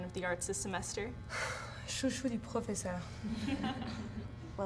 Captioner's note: laughter; speaking French